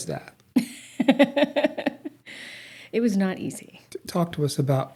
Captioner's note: laughs